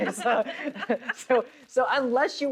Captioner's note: both laughs